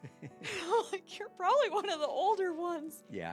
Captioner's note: laughs